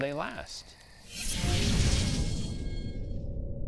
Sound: whooshing

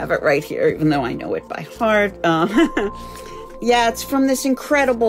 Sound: laughing

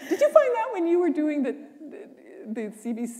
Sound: laughter

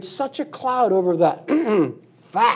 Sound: clears throat

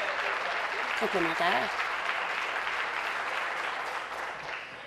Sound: voice trails; applause

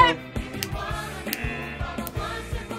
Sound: buzzer

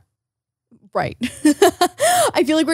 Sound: laughs

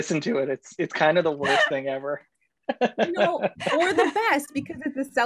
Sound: laughs

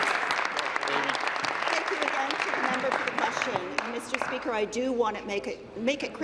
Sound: applause

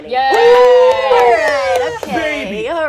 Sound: cheers

